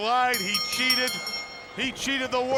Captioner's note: bell ringing